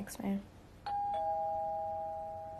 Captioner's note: doorbell ringing